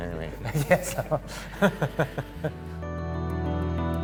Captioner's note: laughter